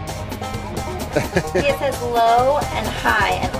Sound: laughing

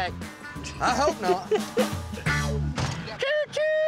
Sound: closes door

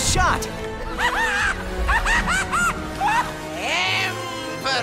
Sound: mischievous laughter

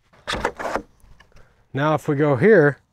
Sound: board clattering

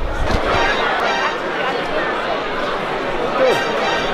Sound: series of Metal Gear Solid ! sound effects; two Metal Gear Solid ! sound effects; series of Metal Gear Solid ! sound effects

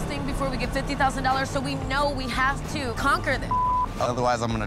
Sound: beep

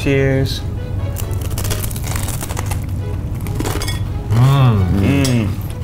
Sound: whimsical orchestral music; crunching

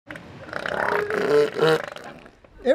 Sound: elephant seal barking

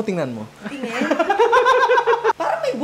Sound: laughter

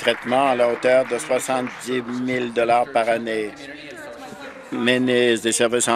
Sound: applause

